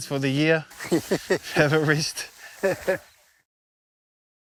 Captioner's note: laughing